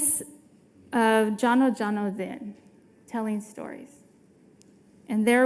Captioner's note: speaking foreign language